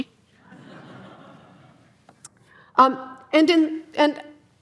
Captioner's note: audience laughing